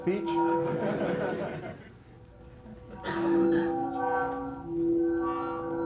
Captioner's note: laughter